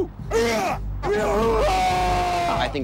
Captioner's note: ineligible screams